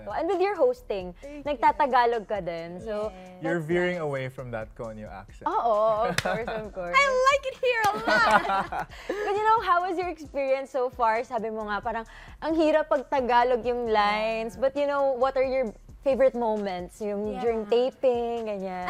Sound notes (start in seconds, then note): 6.1 chuckles; 7.9 laughter